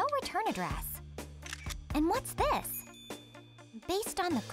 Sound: camera takes picture

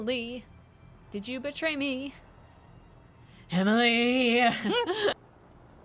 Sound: dramatically

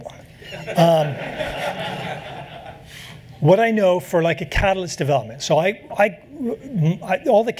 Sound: laughter

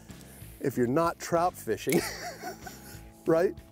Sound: chuckles

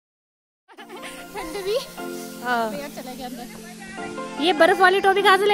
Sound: giggles

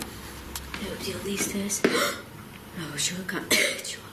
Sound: gasps

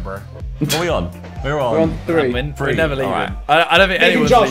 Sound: students murmurs

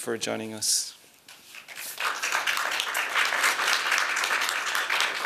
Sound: applause

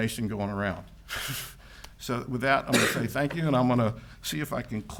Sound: chuckles

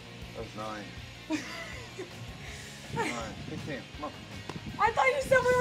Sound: laugh

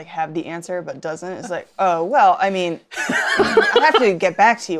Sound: laughs

